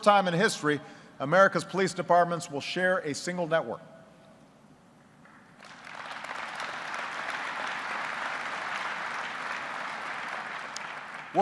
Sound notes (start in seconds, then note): 5.2 applause